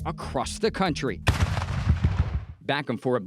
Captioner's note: artillery booms